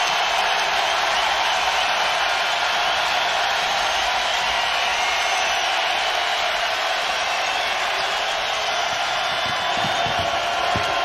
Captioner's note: applause